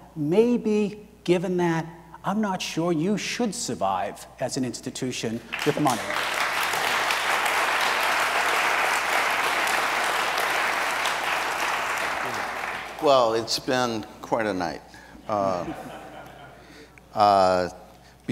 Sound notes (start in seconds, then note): 5.5 audience applauds; 15.3 audience laughs